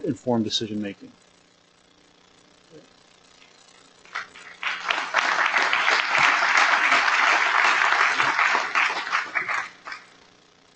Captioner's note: applause